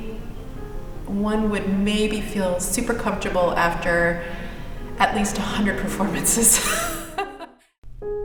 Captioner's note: laughs